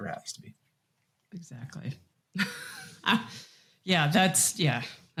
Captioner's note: laughs